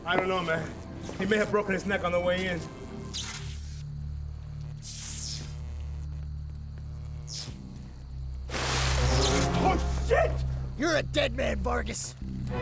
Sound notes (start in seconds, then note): 3.3 electricity sizzling and buzzing; 5.3 dark ominous music; 8.5 water splashing